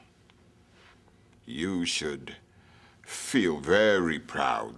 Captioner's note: none